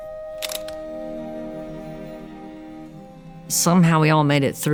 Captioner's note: camera shutter clicking